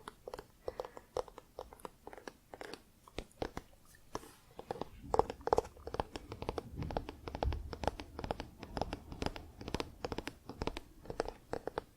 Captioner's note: tapping on spine